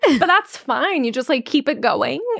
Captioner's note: chuckling